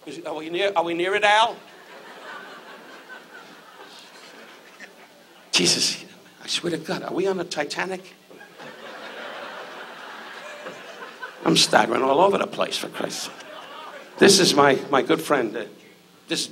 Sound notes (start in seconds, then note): 8.3 audience laughs